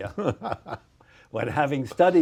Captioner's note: laughs